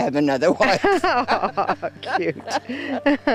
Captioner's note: laughter